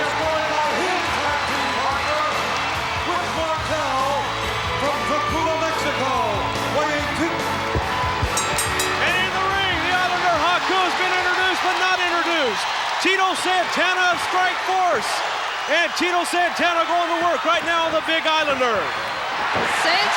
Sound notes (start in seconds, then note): 8.2 bell rings